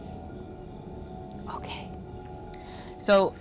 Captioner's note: whispers